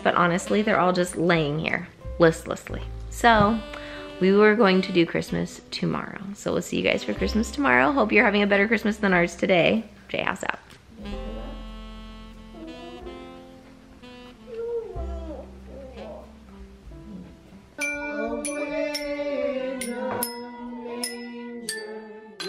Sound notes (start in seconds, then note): 12.0 whining; 18.8 singing Christmas carols